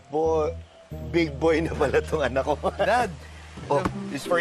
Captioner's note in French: chuckles